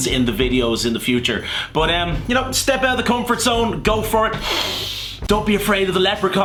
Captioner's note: inhales